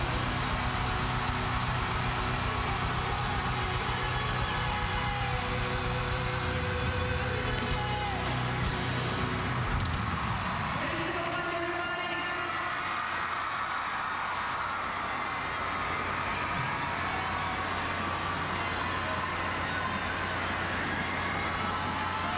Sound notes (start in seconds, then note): 5.5 cheers and applause